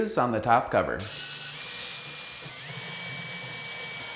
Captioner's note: drilling